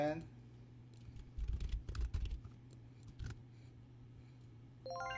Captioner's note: typing